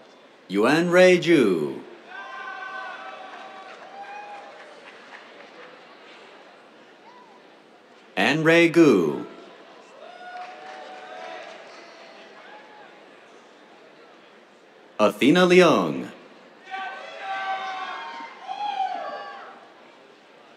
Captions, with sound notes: Yuanrui Zhu. [CHEERS, APPLAUSE] Anrui Gu. [CHEERS, APPLAUSE] Athena Leong. [CHEERS]